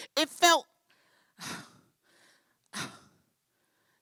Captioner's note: breathing